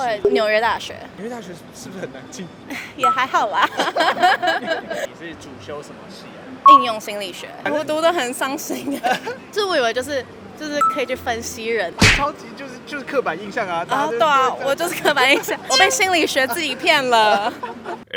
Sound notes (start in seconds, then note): 3.6 laughs in false modesty